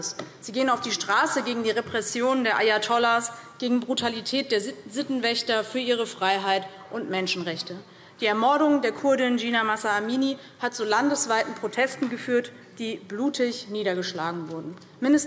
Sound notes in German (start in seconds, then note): none